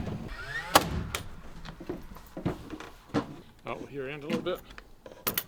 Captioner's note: nail gun popping